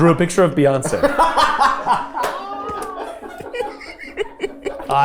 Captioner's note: group laughing